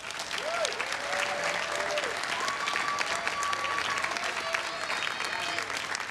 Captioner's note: everyone cheering and applauding